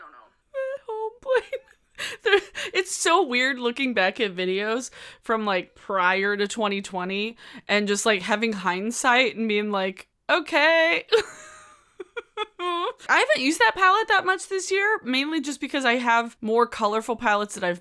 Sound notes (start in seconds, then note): 11.1 chuckles